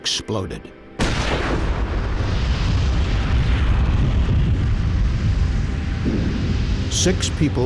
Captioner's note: sound of explosion